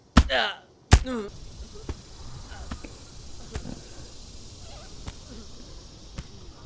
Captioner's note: donovan's grunts continue